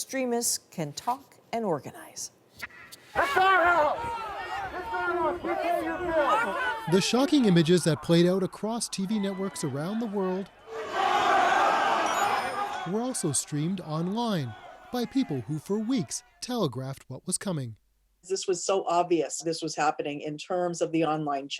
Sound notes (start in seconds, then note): 7.1 crowd noise